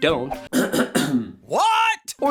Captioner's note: coughing cat